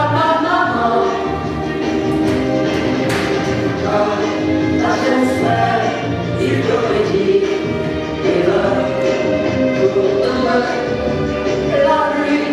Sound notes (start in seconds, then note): none